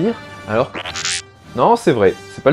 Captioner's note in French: R2 bipe